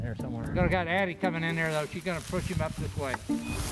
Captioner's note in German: Geschwätz